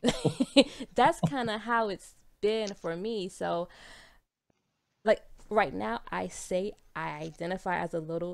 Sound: laughs

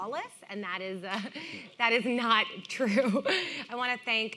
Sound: laughing

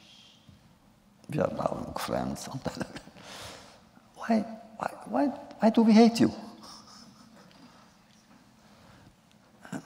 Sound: laughs

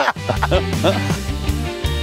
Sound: laughing; upbeat music

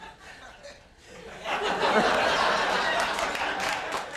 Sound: audience laughs

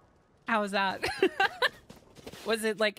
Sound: laughter

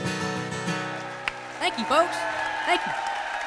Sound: crowd cheering

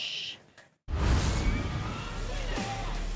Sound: sound effect

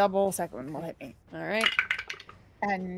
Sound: dice clatter

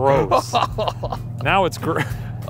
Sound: laughing

